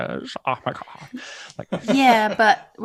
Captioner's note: laughs